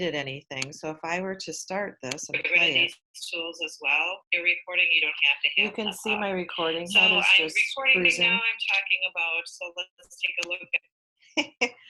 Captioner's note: recording sounds